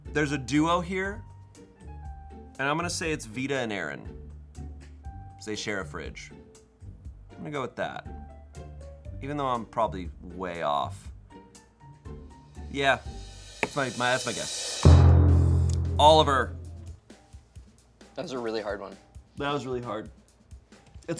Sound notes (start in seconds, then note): 14.8 thud booms